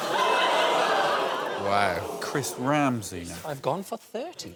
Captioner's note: laughter